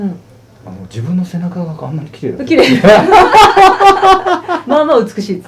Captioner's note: laughs